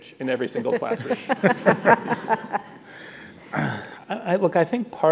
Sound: audience laughing

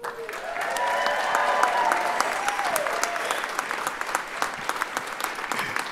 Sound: audience cheer and applaud

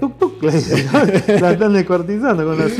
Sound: ha Ha Ha

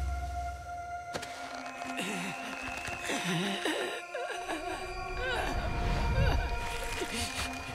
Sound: groaning

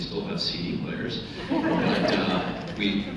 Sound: laughter

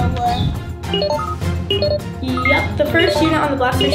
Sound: electrical beeping

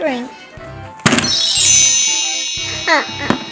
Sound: wand chimes

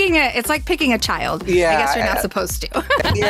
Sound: laughs

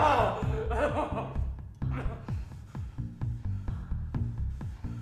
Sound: man yelling; blow thuds; man whimpering

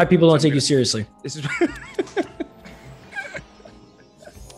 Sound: laugh

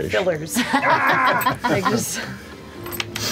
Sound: laughter

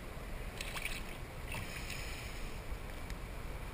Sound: splash!

